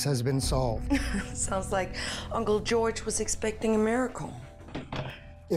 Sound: laughs

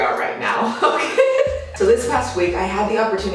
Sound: laughs

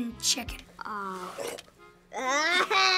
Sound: spits

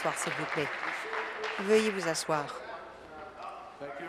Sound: some Applause

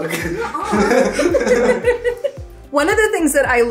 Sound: all laughing

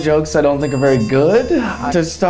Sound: bell rings

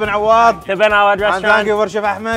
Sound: speaks foreign language

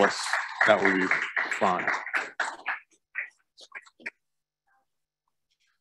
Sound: audience applauding

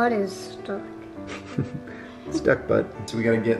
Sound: chuckles

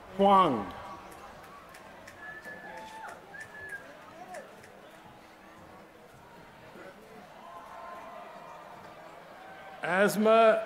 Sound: applause

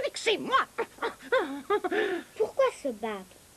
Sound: muttering frustratingly

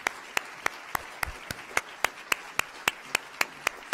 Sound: applause

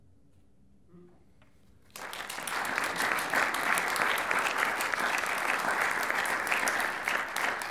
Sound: applauding

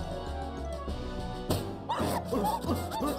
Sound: fast dramatic music; plunger thuds; Lumpy and Petunia grunting

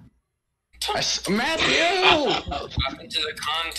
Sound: exclaims

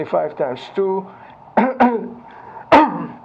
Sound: coughing

